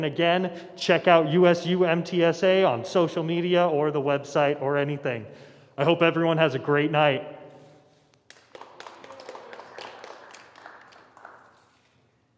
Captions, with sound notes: And again, check out USUMTSA on social media, or the website, or anything. I hope everyone has a great night. [APPLAUSE]